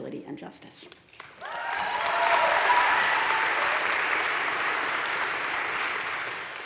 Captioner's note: audience cheering and applauding